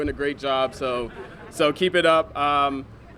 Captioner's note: laughter